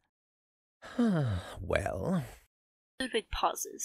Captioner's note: sighs